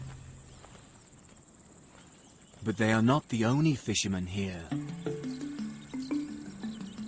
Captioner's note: birds chirping; sneaky music